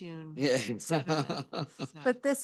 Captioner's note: laughs